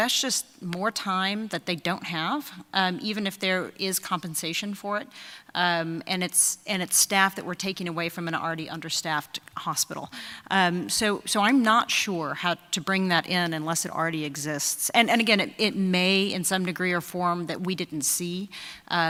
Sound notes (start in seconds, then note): none